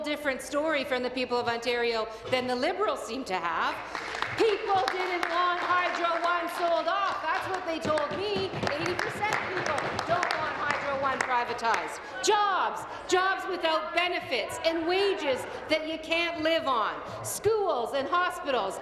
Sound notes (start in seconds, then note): 7.1 applause